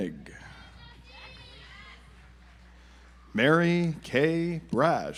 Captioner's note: audience applauds